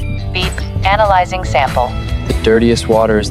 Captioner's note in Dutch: piep